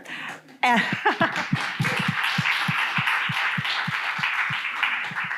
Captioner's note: audience applauds